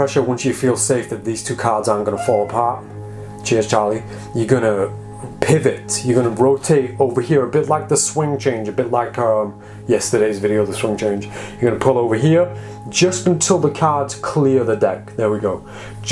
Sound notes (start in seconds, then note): 2.1 cat meows